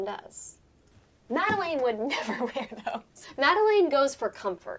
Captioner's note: laughing